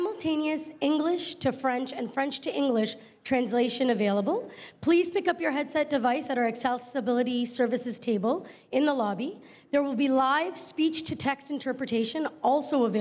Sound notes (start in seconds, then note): none